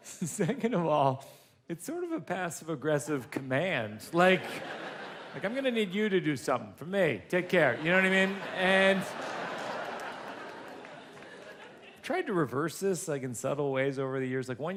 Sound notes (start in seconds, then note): 0.1 laughs; 9.0 audience laughs